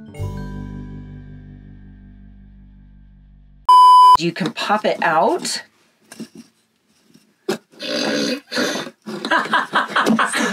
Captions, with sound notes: (beep) You can pop it out. (laughing)